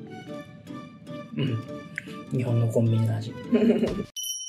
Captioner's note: laughs